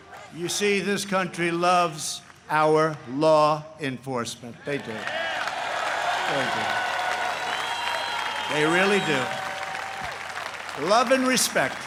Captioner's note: chanting u.s.a